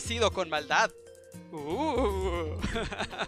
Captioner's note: spooky sounds